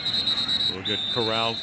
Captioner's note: whistle